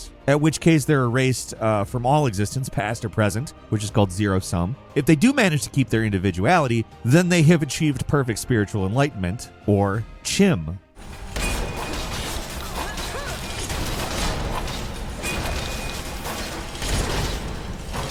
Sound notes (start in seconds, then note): 11.0 loud crashing and exploding